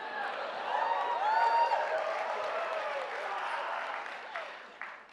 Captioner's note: cheering from the audience